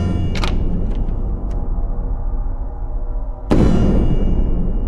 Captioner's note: doorknob clicking